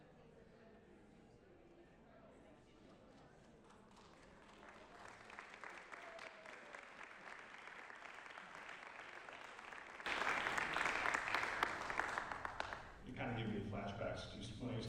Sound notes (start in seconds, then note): 0.0 crowd noise; 5.7 applause